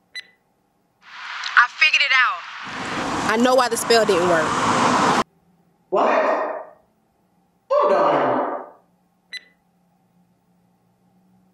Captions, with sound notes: (beep) I figured it out. I know why the spell didn't work. What? Hold on. (beep)